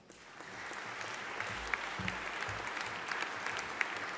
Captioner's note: audience applauding